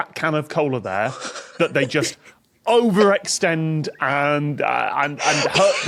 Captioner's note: giggles increasingly